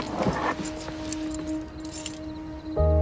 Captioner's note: keys jingling; instrumental music